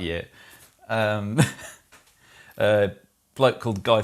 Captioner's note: laughs